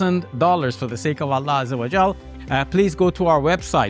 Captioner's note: speaks in Arabic